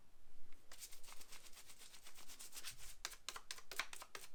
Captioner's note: rubbing sound